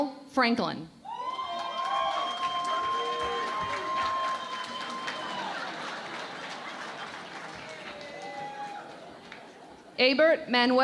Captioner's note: cheering and Applause